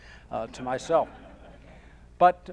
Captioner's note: audience laughing